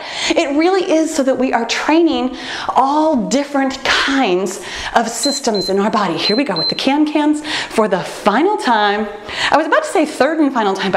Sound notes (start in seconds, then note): 5.2 timer beeps